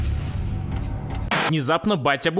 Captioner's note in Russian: помехи